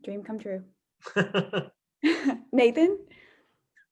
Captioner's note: laughter